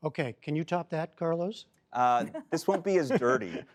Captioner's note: laughter